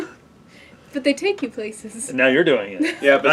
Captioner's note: laugh